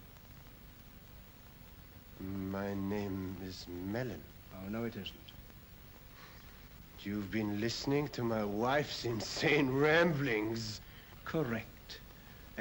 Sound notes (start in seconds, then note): 2.1 voice shakes